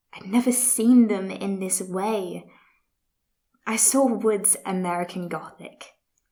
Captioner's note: none